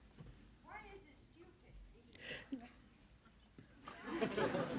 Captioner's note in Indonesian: Tertawa